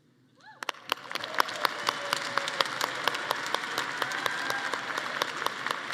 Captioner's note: audience cheering and clapping